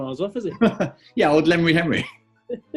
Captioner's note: laughs; giggles